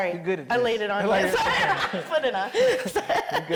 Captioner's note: chuckles